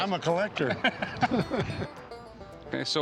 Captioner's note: laughter